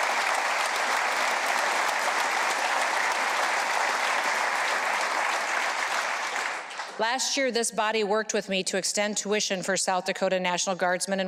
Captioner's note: applause